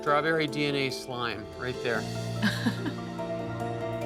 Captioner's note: laughs